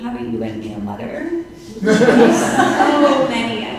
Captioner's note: audience laughing